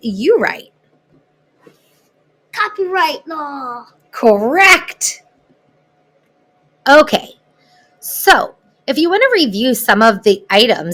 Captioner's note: child's voice